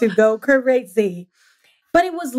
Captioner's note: laughs